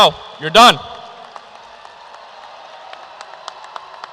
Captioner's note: cheers and applause